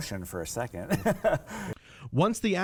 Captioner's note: laughing